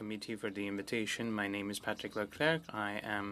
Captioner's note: speaking French